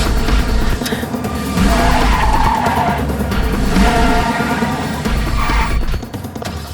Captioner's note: tires squealing; engine revving